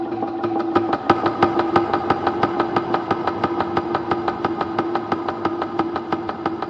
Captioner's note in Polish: knocking noises